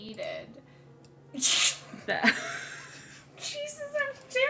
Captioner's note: laughs